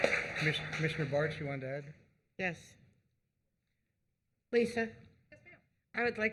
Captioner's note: applause